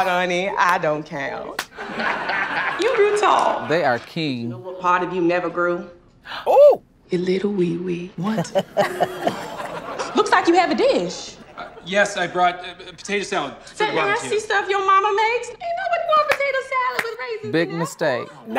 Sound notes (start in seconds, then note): 1.7 laughs; 6.2 gasps; 8.2 laughs